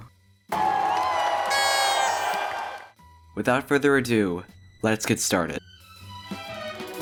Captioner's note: confetti, cheers, applause